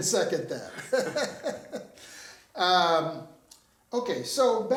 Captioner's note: both chuckling